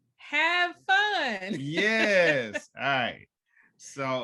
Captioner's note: chuckles